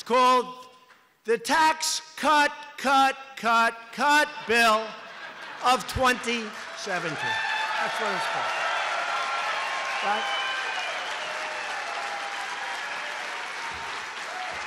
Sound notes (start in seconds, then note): 7.7 laughter and applause